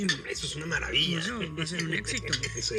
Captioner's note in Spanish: Risas